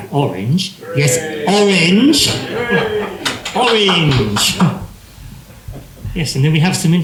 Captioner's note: cheering